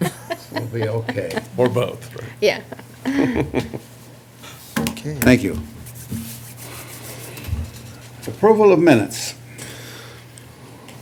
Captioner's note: laughter